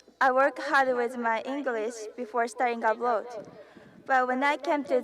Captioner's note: none